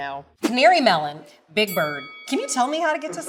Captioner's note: bell dings